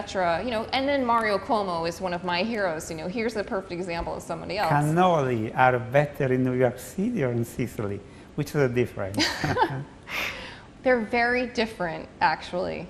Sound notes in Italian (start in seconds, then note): 9.2 risate